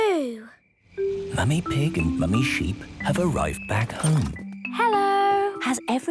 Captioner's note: whispering